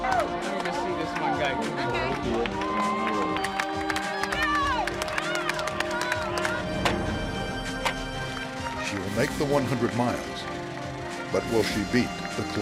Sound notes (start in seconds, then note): 1.8 cheers; 6.2 clock